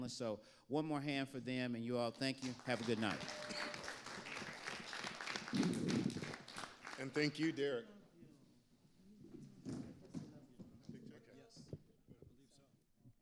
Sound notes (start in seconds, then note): 2.4 audience applauding